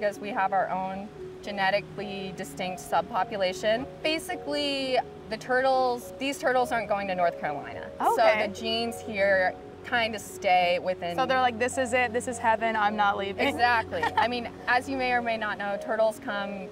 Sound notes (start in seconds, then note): 13.9 chuckles